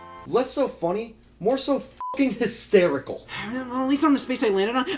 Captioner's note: beeps